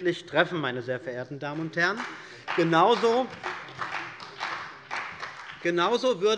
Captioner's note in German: Beifall bei der CDU und dem BÜNDNIS 90/DIE GRÜNEN